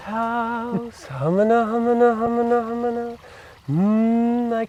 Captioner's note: humming